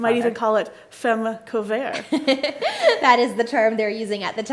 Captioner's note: laughs